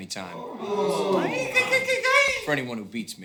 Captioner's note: ooh-ing